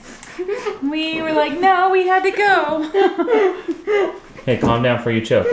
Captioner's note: laughs